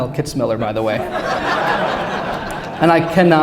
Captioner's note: laughter